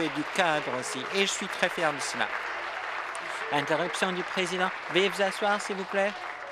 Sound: applause

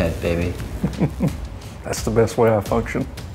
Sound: laughing

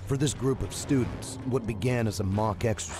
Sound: voiceover

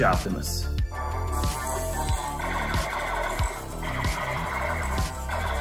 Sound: Optimus Prime whirring

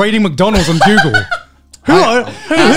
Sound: laughing

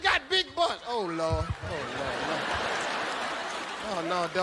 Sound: audience laughing

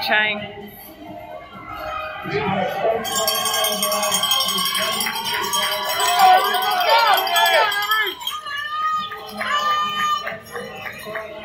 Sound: bell ringing, crowd noise, PA Announcer speaking unintelligibly

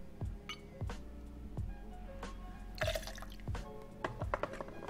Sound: liquid pouring

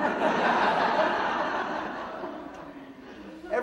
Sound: audience laughing

